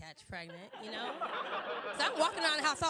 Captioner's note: crowd Laughing